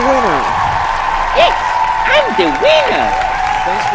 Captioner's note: applause